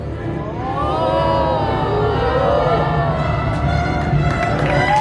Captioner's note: guests sounding amazed